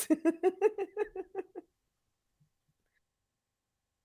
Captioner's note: laughing